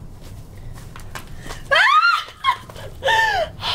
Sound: Liz screams

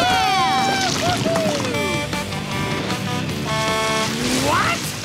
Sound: horn honking

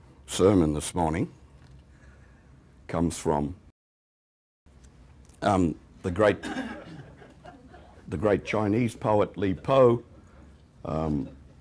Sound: laughter

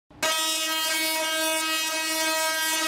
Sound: buzzing

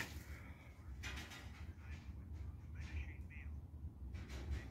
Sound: metal rattling

